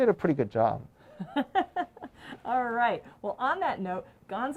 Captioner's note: laughs